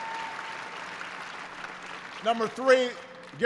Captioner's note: applause